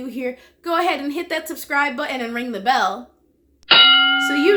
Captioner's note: bell rings